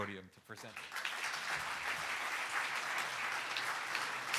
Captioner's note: audience applauding